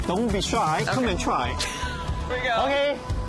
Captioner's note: laughs